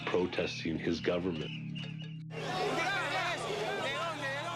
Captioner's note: shouting in Spanish